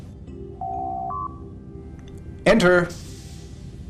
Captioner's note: door Chime